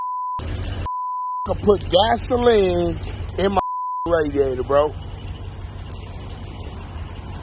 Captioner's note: beep